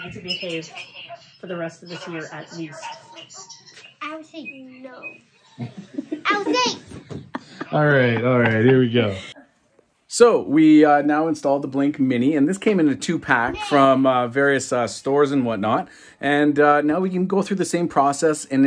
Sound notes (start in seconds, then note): 5.5 mom laughing